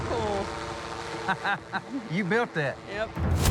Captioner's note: laughs